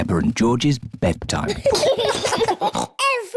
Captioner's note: both giggle